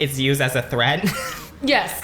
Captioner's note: laughs